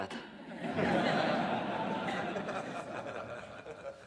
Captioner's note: people laughing